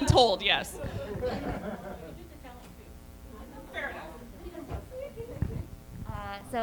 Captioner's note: more staff chatter